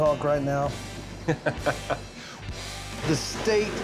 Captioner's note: laughs